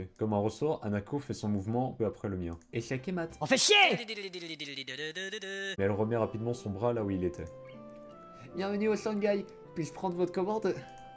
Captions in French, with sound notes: « Comme un ressort, Hanako fait son mouvement peu après le mien. » « OH FAIT CHIER !! » *fait le téléphone avec sa bouche* « Bienvenue au Shanghai ! Puis-je prendre votre commande ? »